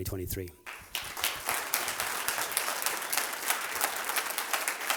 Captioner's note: applause